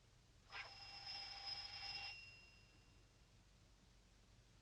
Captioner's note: doorbell buzzing